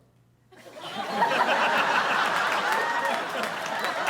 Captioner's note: audience laughing